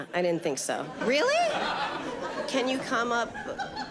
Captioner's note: audience laughs